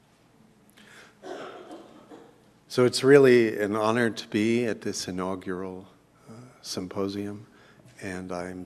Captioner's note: cough